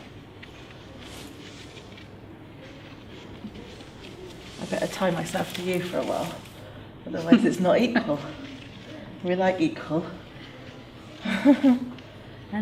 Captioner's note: laughs